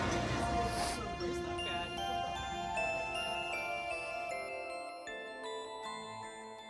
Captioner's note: percussion chime music; sniffs